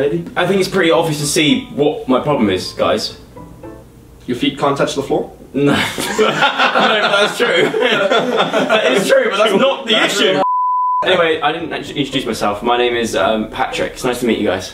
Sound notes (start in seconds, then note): 5.6 laughing in background; 5.6 laughs